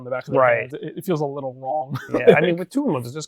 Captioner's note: laughs